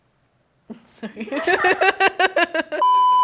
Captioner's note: laughs